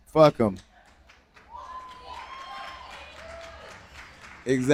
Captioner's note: applause